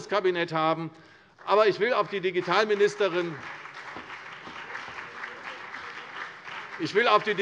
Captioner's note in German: Beifall CDU und BÜNDNIS 90/DIE GRÜNEN